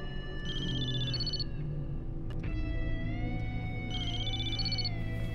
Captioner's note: mobile phone rings